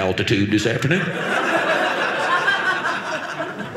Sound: audience laughing

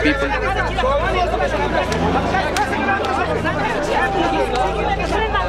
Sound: shouting in foreign language

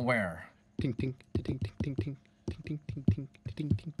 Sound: tapping

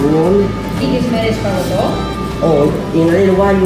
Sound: speaks Greek

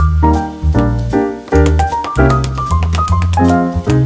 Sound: taps in triplets

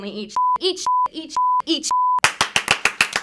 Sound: beep; claps

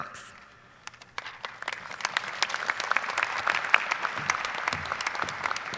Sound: audience applauding

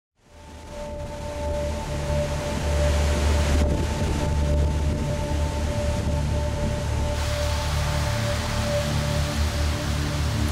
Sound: rain and waves

